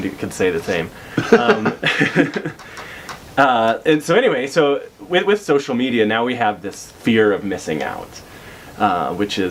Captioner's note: laughs